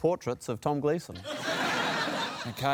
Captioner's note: laughter